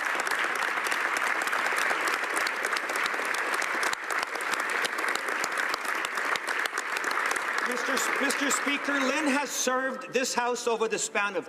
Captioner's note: applause